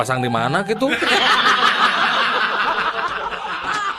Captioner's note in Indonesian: tertawa